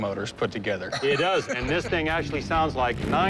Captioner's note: laughs